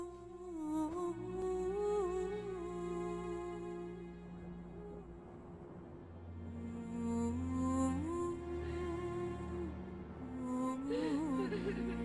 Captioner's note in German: dramatische Musik; Frau weint